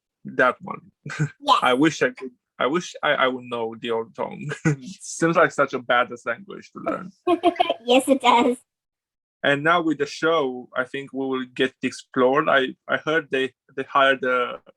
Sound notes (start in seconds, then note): 7.8 laughs